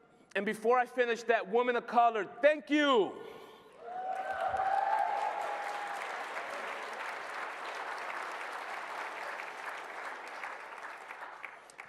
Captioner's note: applause